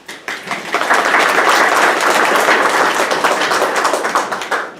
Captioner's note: audience applauding